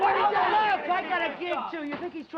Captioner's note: men yelling